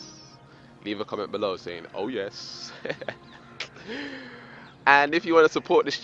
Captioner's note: laughs